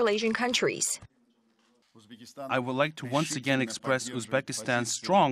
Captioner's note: uzbek